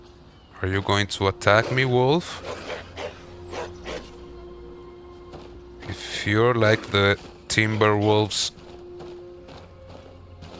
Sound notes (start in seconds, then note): 2.6 wolves barking